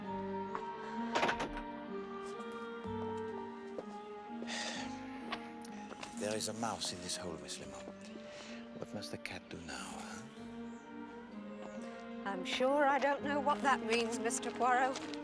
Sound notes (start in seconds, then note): 4.4 Menghela napas